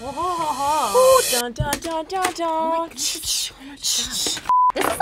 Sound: beep; vocalizes

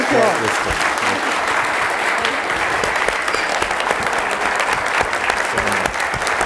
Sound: applause

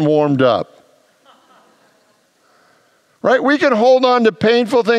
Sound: congregants laugh

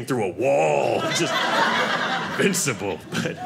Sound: audience laughing

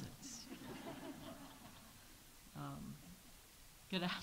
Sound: audience laughs

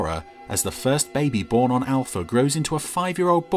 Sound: none

